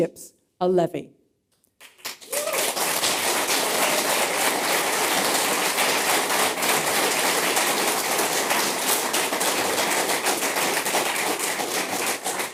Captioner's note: applause